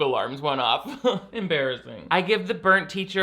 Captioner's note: laughs